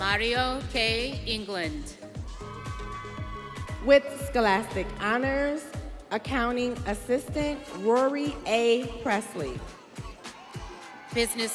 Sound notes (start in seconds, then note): 2.3 students cheering